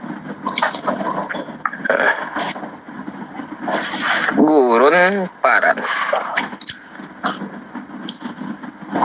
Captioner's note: laughs